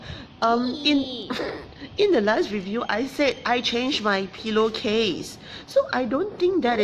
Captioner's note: laughs